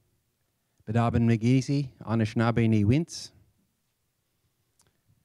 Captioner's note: speaks Anishinaabe language